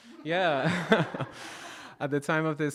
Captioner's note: audience laughing